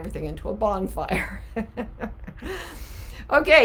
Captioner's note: laughing